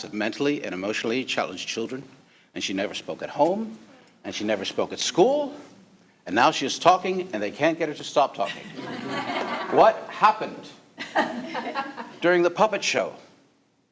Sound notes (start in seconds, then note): 8.4 all laughing